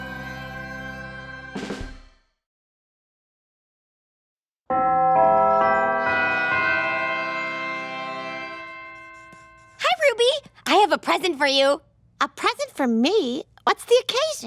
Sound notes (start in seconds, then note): 4.7 bells ringing